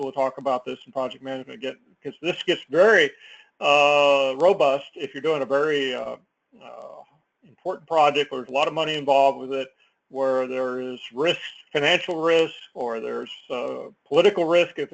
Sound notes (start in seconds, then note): none